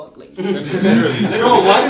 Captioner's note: laughs